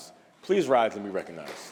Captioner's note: applause